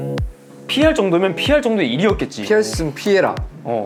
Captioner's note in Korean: 열변